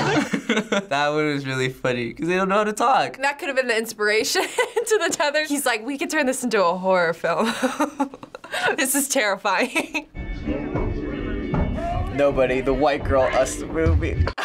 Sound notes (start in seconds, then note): 7.4 chuckles